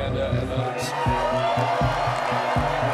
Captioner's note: crowd cheering